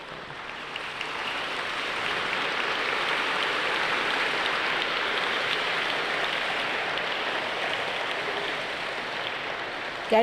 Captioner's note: all clap